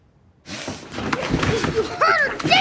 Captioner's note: rustling; thumping